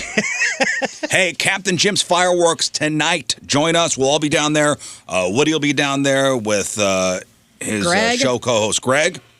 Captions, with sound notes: (laughing) Hey, Captain Jim's fireworks tonight. Join us, we'll all be down there. Woody will be down there with his show co-host Greg.